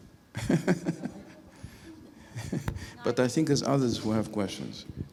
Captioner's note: laughing